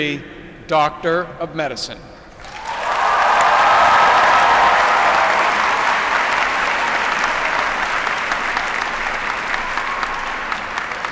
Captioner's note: applause